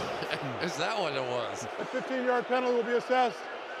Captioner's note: laughs